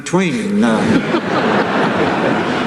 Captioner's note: laughter